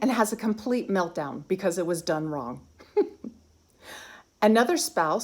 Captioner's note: giggling